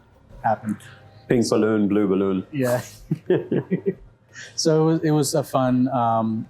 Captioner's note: both laugh